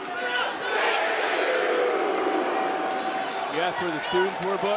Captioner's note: crowd yells "chase u"